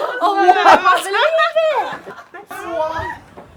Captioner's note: group cheering